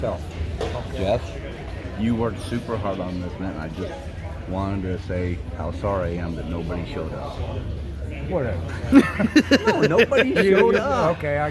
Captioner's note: laughing